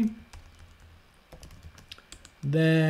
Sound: keyboard tapping

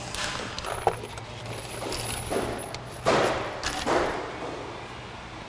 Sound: screws clattering, banging

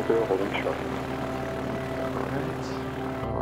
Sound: engines rumble

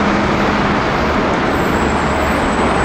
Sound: none

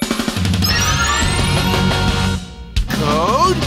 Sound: powering up

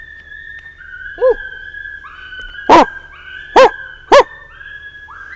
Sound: man imitates coyote bark

